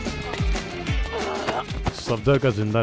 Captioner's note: Screams